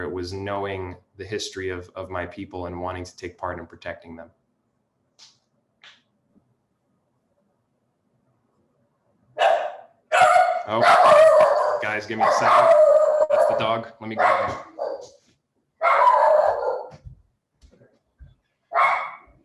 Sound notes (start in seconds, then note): 10.1 Punch barking; 15.8 Punch barking